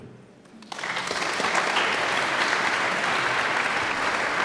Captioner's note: audience applauds